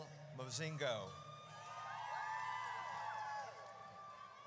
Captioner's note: audience cheers